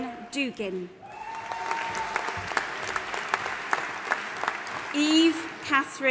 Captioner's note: audience applauding and cheering